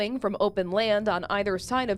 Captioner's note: more wind